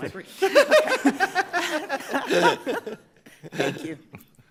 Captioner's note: all laughing